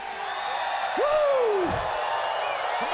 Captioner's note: crowd cheering